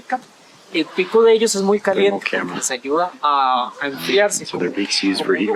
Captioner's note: in Spanish